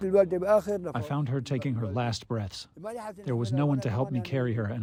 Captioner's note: through translator